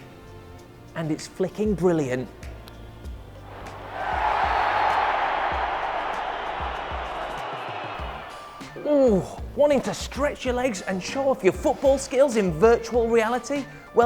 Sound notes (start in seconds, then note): 3.5 crowd cheering